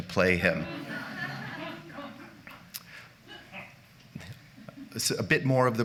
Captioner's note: laughter